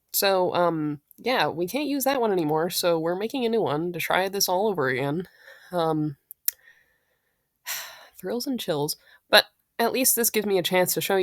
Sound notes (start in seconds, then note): 7.7 sigh